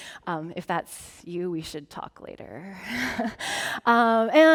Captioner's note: chuckling